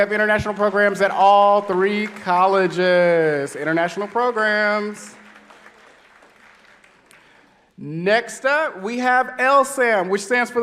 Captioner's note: applause